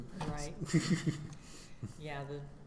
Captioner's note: chuckling